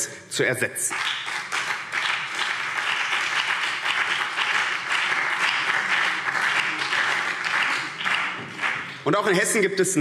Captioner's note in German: Beifall BÜNDNIS 90/DIE GRÜNEN